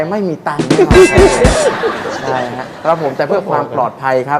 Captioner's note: laughing sound, ha, ha, ha